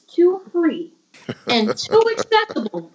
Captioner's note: laughter